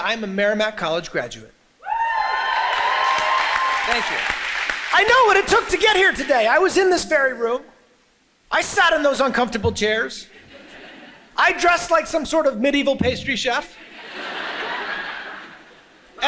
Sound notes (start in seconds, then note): 1.8 crowd cheers; 10.4 crows laughs